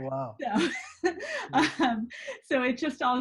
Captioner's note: laughs